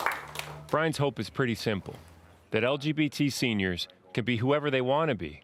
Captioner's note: applause